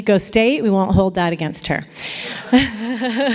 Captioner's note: laughter